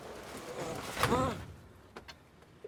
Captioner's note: traffic warden groans